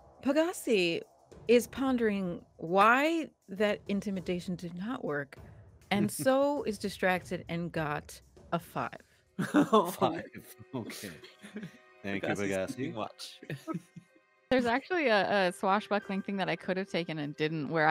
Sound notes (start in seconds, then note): 9.4 laughs